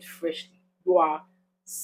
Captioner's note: paause